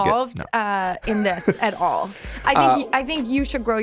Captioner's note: Justin chuckles